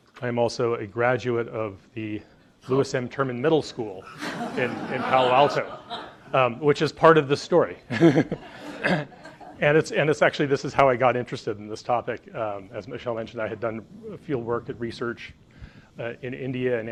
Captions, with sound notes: I'm also a graduate of the Lewis M. Terman Middle School in Palo Alto, (audience laughs) which is part of the story. (laughs) And actually, this is how I got interested in this topic. As Michele mentioned, I had done field work and research in India